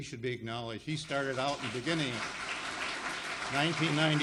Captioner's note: audience applauds